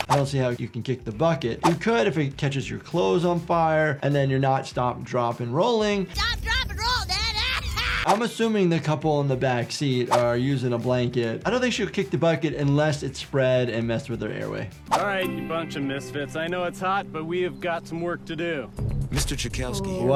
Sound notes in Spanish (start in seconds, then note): 7.3 reír